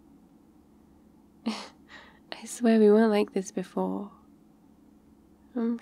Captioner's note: laughs